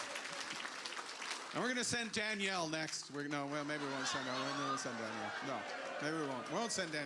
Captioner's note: cheers